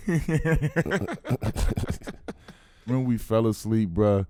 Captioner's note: both laughing